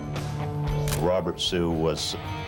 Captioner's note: camera shutter click